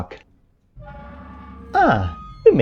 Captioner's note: gate noise